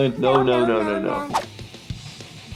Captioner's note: cat meowing no; aggressive electric guitar music